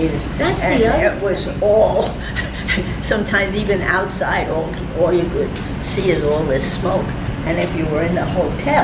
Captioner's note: laughs